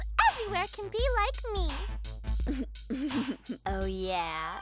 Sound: giggles

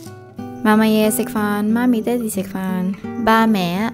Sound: Cantonese

